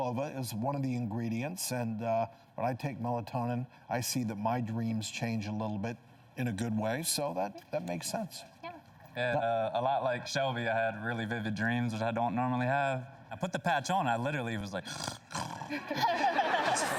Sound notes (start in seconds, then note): 14.8 snores; 15.3 laughing